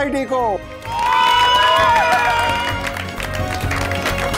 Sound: cheering and applause

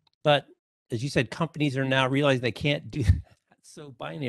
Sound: laughs

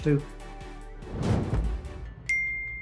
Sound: air whooshes; logo chimes

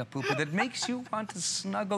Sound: laughter

